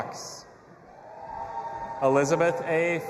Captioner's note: audience applauding and cheering